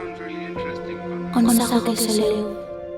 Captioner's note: speaks non-española